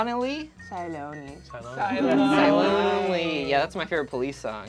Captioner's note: overlapping chattering